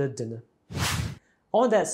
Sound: screen swooshes

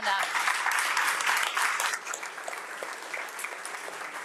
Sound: all applauding

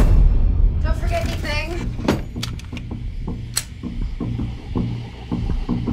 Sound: gun cocks

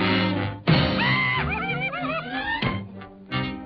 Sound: scream

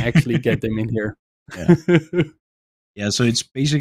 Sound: laughs

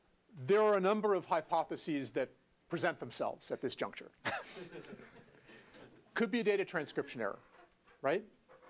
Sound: laugh

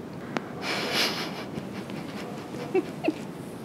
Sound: laughing

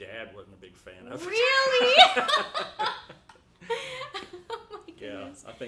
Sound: both laughing

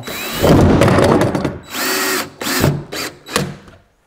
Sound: drill whirs

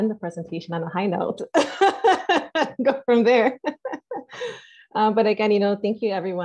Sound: laughs

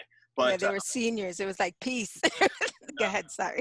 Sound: laughs

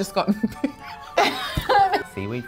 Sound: laughs

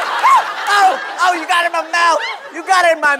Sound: shrieks

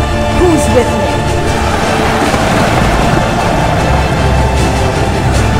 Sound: hoofbeats; cheering

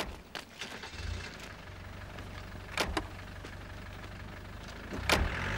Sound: car starts and doors slam

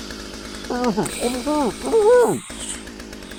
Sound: muffled cheers

